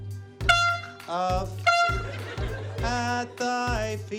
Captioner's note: percussive music plays; toot!